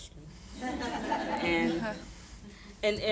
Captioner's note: audience laughing